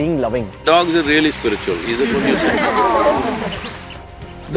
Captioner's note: laughter